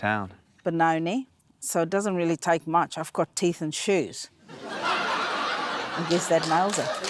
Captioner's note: laughter; applause